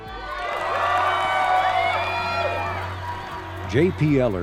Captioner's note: crowd cheering